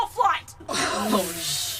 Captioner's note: the crew gasp, scandalised